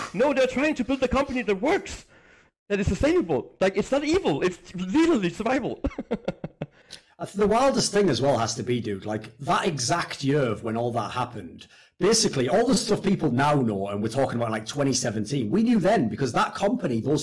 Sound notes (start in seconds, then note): 5.5 laughs